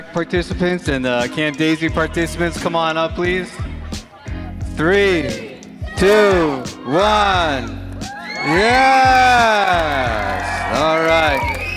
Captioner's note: cheers